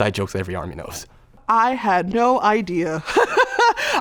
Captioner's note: laughs